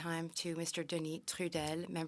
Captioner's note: speaking French